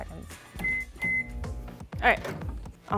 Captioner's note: microwave beeping